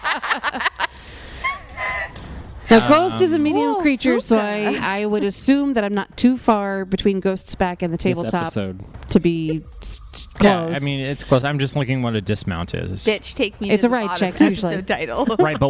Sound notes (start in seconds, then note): 0.0 laugh; 9.5 quietly; 15.2 laughs